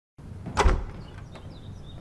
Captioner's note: sound of a door opening abruptly